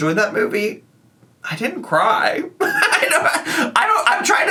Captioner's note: laughs